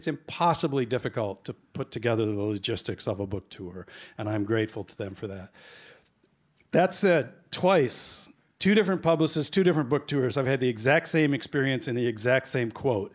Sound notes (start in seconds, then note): none